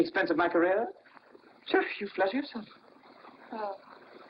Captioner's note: scoffs